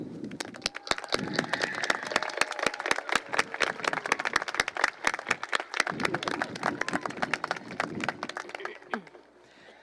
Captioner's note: applause